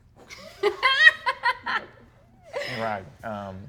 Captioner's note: laughs